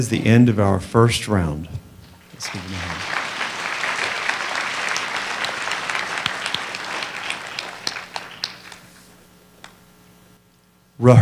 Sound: applause

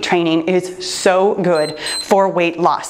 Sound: timer beeps

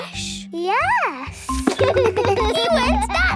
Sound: giggles

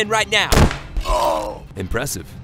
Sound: gunshot and death curdle

